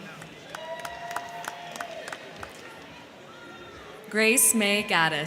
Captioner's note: crowd clapping; crowd cheering